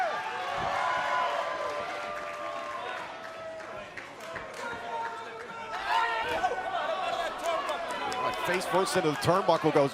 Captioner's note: crowd cheering